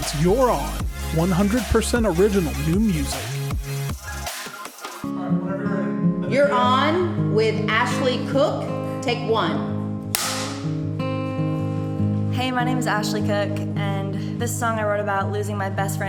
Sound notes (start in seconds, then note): 10.1 snap; 11.2 acoustic guitar music